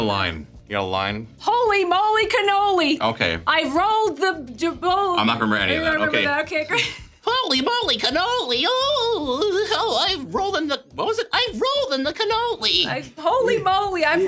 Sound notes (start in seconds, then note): 6.6 chuckles